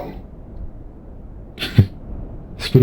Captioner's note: Foxy chuckles